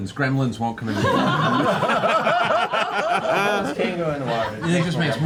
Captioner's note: laughter